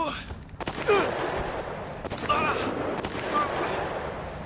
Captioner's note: gunshots banging